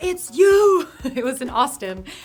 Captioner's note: laughing